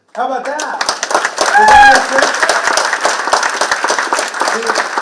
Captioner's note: participants clapping